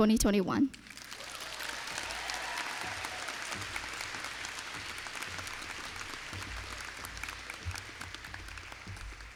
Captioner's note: applause